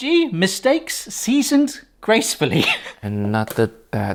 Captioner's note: laughs